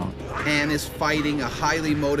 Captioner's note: voiceover